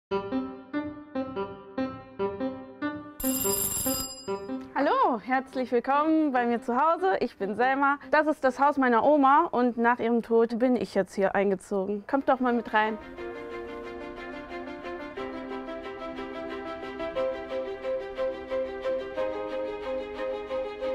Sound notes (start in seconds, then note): 3.2 ringing; 13.9 bright music